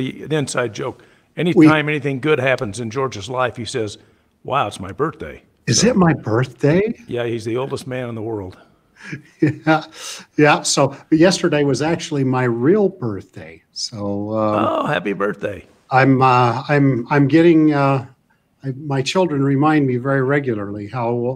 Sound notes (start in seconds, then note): 9.0 laughs